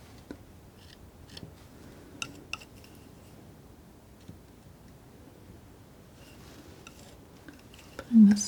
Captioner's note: scissors snipping